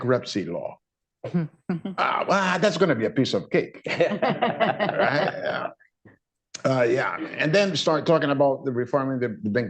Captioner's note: laughter